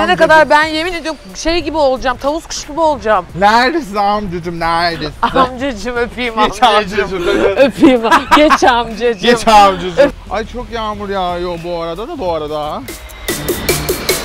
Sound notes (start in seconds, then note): 8.9 laughs